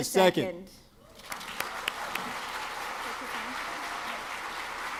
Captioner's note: audience clapping